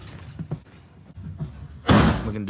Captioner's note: boxes thud